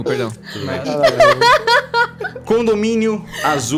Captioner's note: laughs